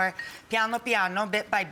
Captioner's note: foreign language